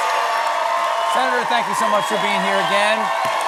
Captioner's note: cheers and applause